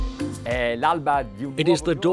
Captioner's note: speaking foreign language